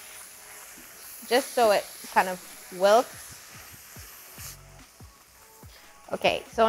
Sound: leaves sizzling

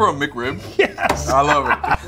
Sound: laughing

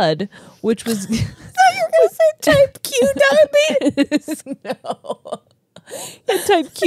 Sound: laughs

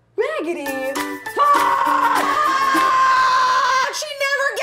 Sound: rageddy ann screaming

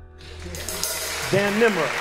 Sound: applause

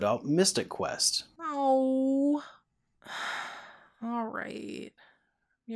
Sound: sigh

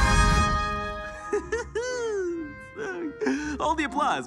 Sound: Lucifer laughs

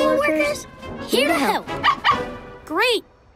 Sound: barking

